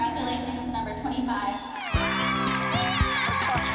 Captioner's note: cheering